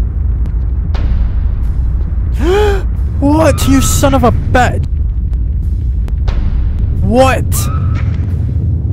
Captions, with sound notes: (Gasps) What you son of a bi- What